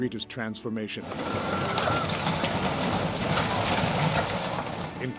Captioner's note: breaking rubble